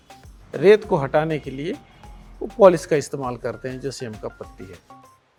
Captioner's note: speaking foreign language